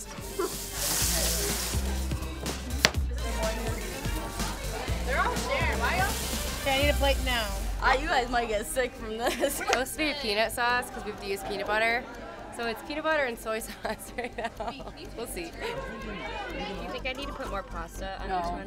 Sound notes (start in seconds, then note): 0.0 food frying loudly; 2.8 knife chop loudly; 4.2 loud chatter